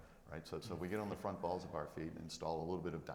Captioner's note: panelist chuckles